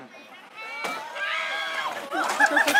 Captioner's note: screams